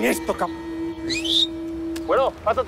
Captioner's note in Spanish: Silbido